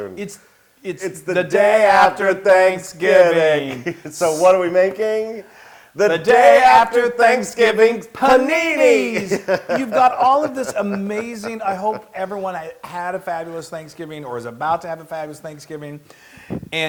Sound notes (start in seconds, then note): 3.0 laugh; 8.3 laugh